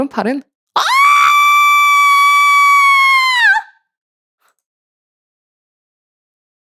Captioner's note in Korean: 비명